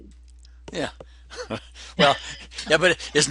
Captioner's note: laughter